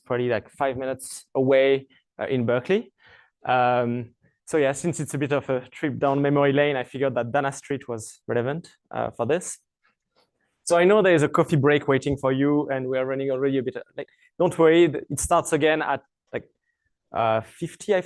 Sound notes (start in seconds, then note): none